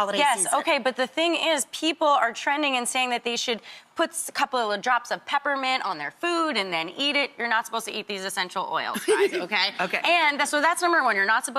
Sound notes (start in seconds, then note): 8.9 laughing